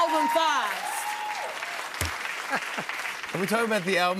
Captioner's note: cheers and applause